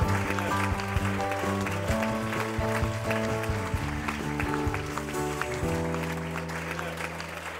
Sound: applause

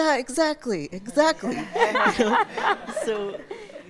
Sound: all laugh

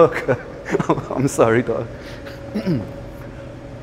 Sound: chuckles

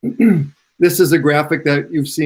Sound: clears throat

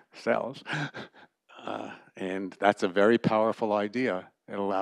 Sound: laughter

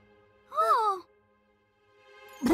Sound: both gasp

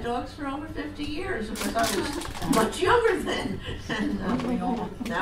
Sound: audience laughs; laughs

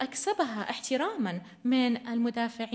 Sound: in arabic

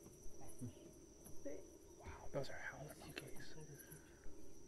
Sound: whispering

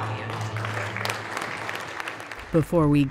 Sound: crowd clapping

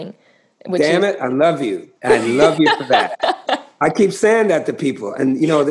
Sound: laughter

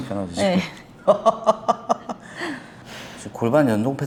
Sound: laughs

